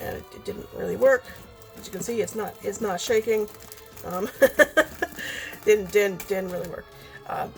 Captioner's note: laughs